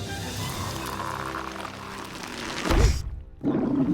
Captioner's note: slooooow munch